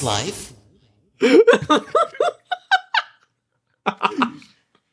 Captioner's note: laughs